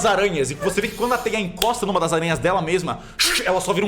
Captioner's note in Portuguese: sons de aranha